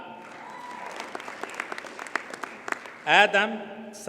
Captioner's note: audience cheers and applauds